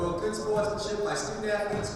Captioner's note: speaking amidst echo